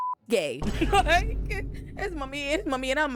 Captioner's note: laughs